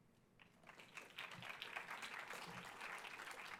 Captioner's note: applause